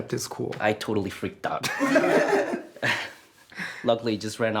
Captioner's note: laughter